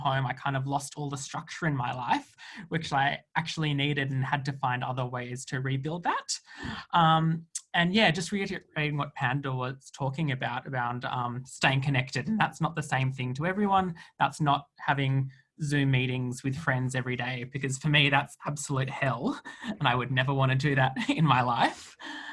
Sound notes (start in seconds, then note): none